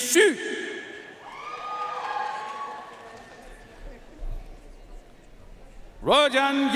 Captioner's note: audience cheering and applauding